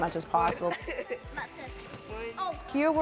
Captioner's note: kids playing